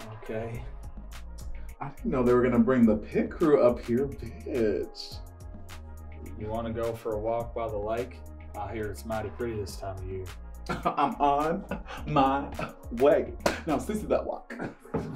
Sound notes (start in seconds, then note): 10.6 laughs